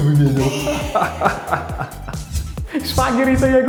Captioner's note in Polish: Śmiech Antka